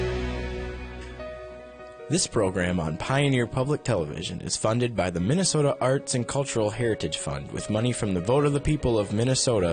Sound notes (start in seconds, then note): 2.2 voiceover